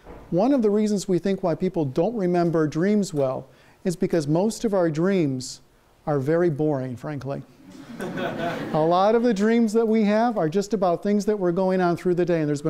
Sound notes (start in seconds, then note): 7.7 class laughs